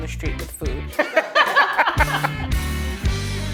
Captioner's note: laughter